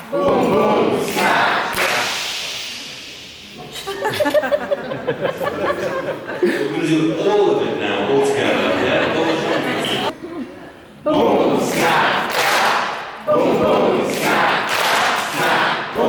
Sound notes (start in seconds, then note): 3.5 crowd chuckling